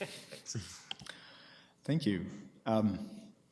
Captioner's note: laughing